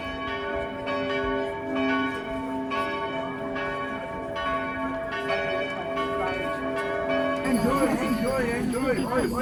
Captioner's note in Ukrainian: гул дзвонів